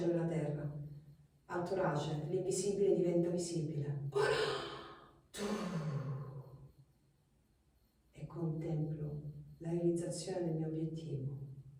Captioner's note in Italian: sospiri